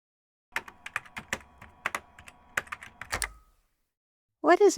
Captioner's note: keyboard typing sounds